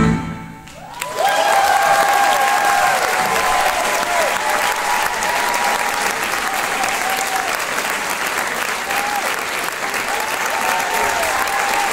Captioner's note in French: Applaudissement